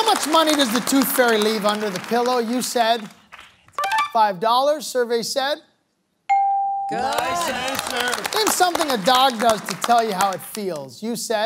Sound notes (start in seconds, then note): 6.3 bell dings; 7.0 applause